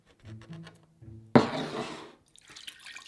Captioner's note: bowl sliding; water pouring